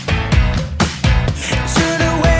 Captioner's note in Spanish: respiración